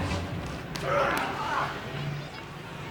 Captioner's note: Vampiro grunting